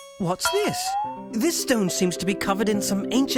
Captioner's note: none